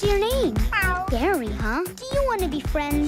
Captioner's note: meow